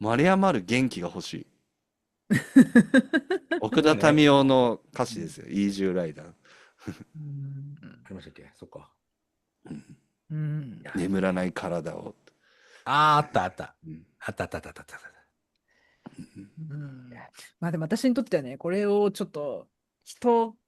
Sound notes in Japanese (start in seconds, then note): 2.4 笑い; 9.6 咳払い